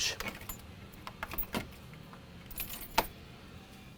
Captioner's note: keys jingling